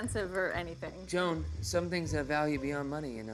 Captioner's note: camera whirring